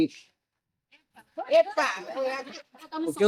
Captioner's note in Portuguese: risadas